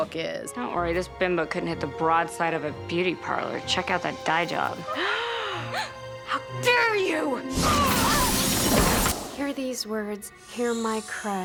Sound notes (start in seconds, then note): 4.9 all gasp